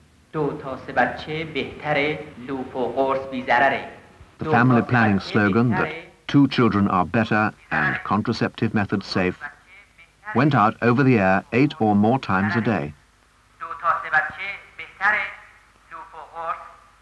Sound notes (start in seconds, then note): 0.3 announcer speaking Farsi; 13.1 announcer speaking Farsi; 15.3 broadcasts over radio